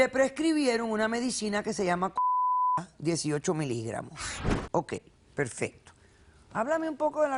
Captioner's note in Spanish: Bip